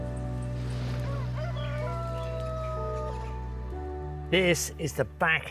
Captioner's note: birds chirping; rooster crowing